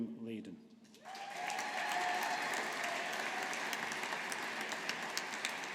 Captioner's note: audience applauding